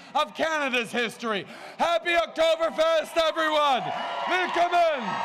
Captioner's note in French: Acclamations débordantes